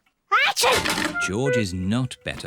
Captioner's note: sneezes